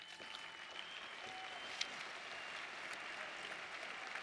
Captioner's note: audience applauding